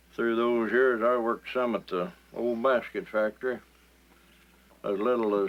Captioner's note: none